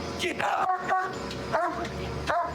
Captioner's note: barking